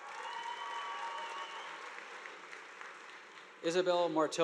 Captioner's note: audience applauding